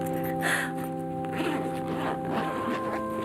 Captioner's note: Lana crying; somber music